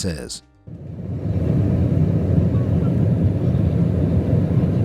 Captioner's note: engine whirring